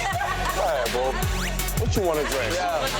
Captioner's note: girls laughing